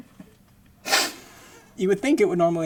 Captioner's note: laughing